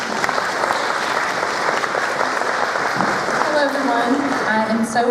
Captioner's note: applause